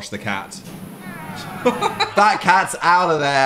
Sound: cat mewls; laughs

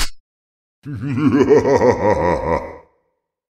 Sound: spooky laugh

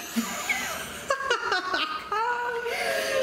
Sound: laughing

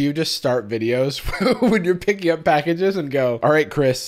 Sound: laughing

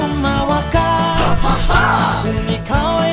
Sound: haHaHa!

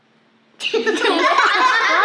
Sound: laughter

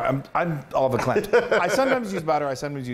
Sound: laugh

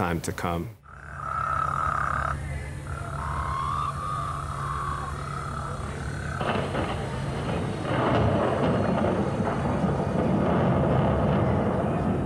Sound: monsoon sounds from speakers

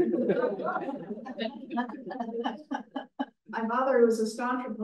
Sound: everyone laughed

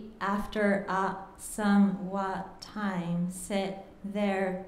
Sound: speaking japanese

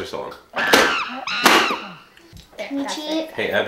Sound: monkey screaming

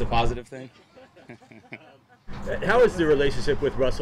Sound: everyone laughs

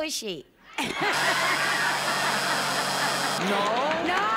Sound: laughter

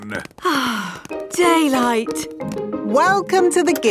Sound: sighs

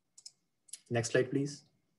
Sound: clicking

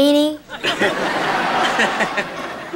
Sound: laughter

